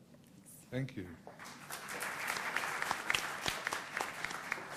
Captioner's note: applause